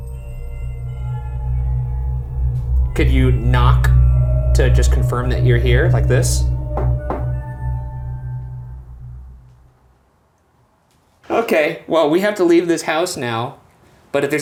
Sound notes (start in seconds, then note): 0.2 eerie music; 6.6 knocking; 8.1 eerie music